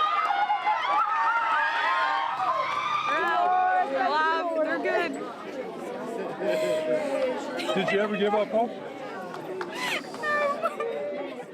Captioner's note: cheering